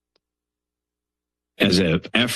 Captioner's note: pause